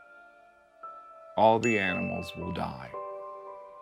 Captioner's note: bell chiming